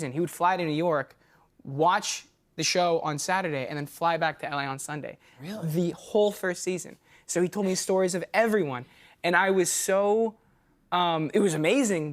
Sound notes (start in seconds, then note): none